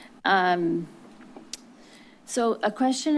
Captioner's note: clicks tongue